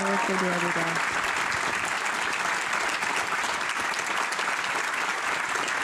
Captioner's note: applause